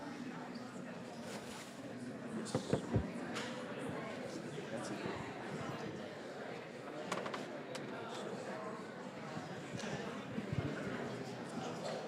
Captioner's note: general chatter